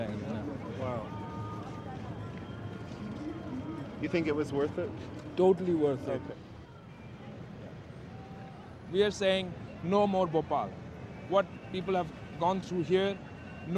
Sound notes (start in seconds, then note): none